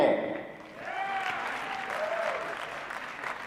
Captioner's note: applause